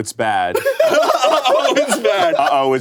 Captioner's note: everyone laughs